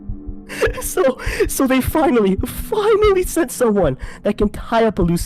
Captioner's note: laughing